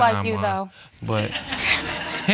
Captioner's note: audience laughs